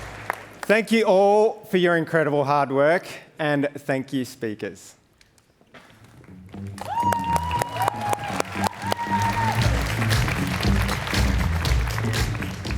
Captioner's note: applause